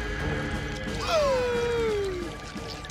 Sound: gasping

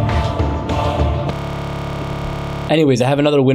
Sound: computer buzzing

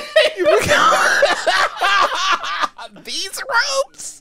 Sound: sentence breaks into laughter by both

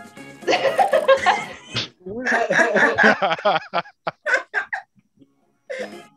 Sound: everyone laughs

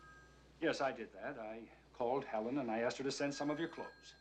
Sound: phone Rings

